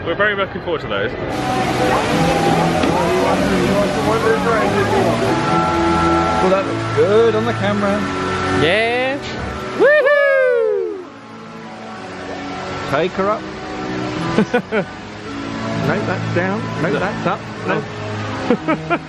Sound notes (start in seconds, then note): 14.4 laughs; 18.5 laughs